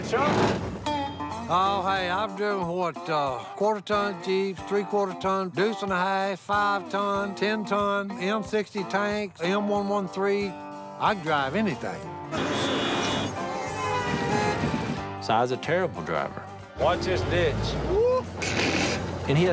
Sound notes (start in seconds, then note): 0.0 gears grinding; 12.2 car horns blaring; 18.3 snorts